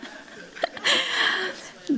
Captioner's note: chatter; laughter